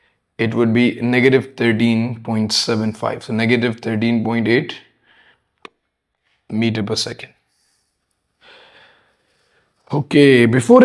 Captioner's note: sighs